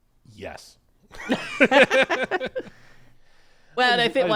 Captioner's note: both laughing